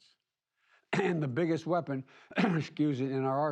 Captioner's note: coughs